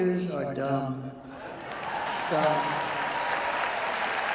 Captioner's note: cheering and applause